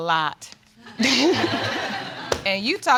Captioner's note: all laugh